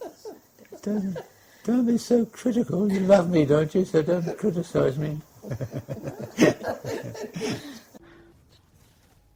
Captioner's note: laughter